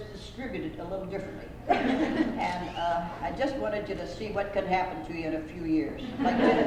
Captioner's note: laughter